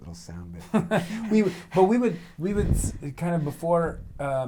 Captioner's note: laughs